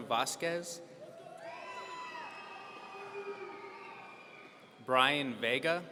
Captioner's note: audience cheering